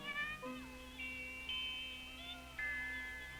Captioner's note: somber music continues; baby fussing